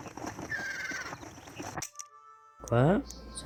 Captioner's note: music and speeding horse; sounds of general pages